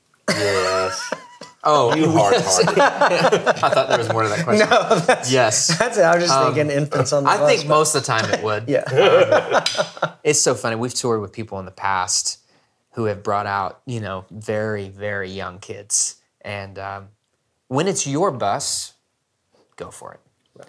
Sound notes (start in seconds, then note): 0.2 laughing; 5.4 laughs; 8.8 laugh